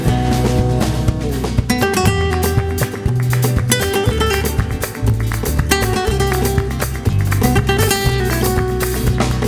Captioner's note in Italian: Applauso